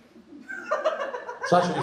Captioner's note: laughing